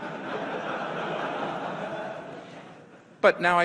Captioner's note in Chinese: 會眾笑